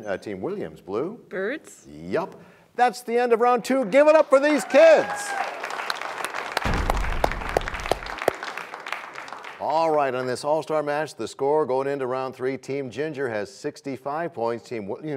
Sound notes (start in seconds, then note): 5.8 applause; 6.6 crashing sound